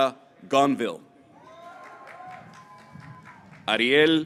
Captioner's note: graduates cheering